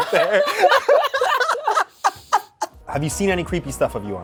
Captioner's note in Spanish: risas